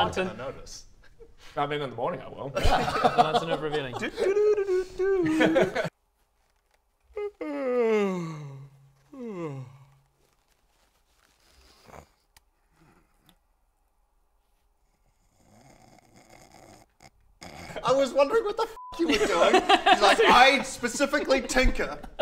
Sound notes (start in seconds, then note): 7.1 yawn; 14.9 snore